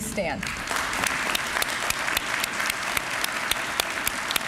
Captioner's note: applause